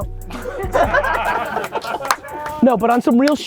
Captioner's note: all laughing